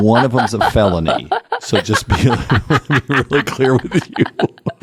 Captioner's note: laugh